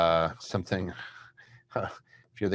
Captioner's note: chuckles